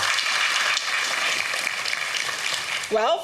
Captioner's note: applause